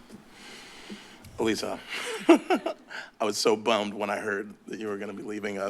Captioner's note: laughs